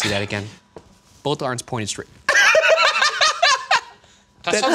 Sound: laughing

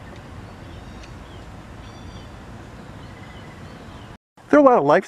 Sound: birds chirping

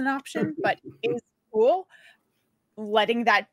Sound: chuckles

